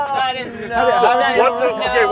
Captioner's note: people laugh